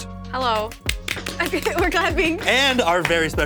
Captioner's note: claps